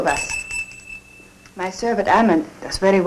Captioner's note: bell rings